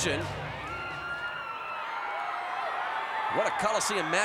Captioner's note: audience cheering